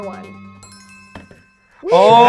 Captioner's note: suspenseful music; chimes dinging